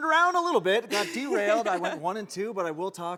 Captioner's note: laughing